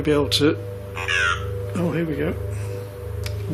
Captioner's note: puck speaking